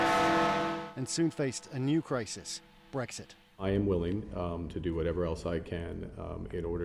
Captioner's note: bell tolls